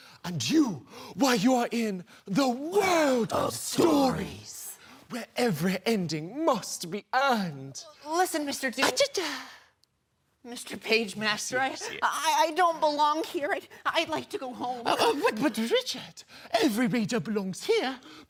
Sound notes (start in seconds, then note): none